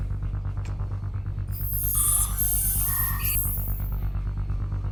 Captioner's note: electronics beeping